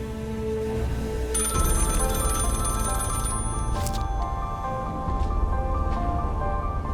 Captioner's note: tense music continues; tense music; bell ringing